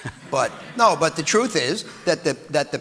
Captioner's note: audience laughing